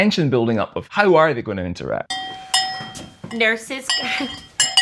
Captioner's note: bell; laughter